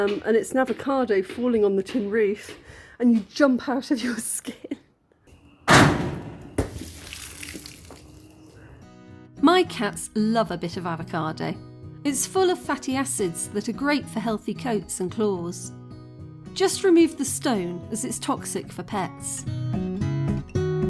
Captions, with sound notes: and it's an avocado falling on the tin roof and you jump out of your skin. [loud thud on tin roof] [something hitting the ground] My cats love a bit of avocado. It's full of fatty acids that are great for healthy coats and claws. Just remove the stone as it's toxic for pets.